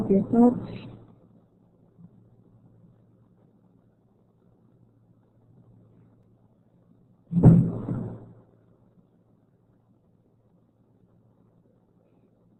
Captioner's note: silence